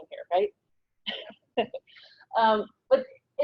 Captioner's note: laughs